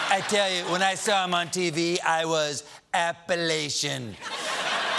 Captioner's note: laughter